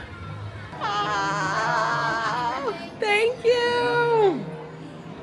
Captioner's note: exclaims